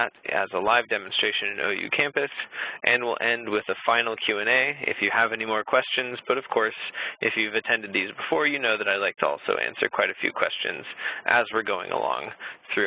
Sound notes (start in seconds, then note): none